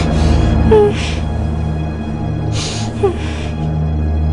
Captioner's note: whimpering